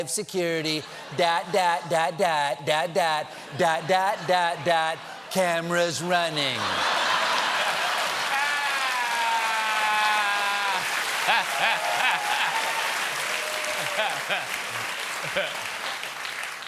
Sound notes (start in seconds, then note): 6.5 laughter; 7.3 applause